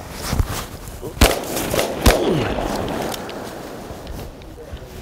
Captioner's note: gunshots firing